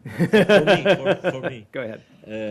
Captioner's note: laughter